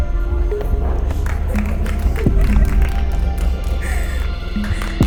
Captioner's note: cheers and applause